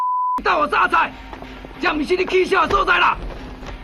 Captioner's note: beep